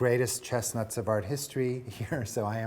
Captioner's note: chuckling